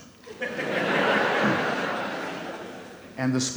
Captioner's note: audience laughs